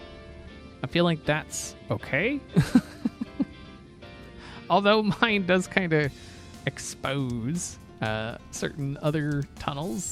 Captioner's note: laughs